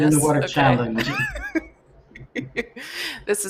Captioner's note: laughter